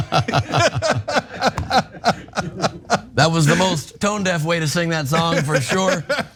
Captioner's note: laugh